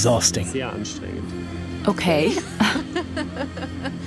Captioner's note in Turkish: Gülüyor